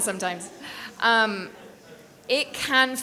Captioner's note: people laughing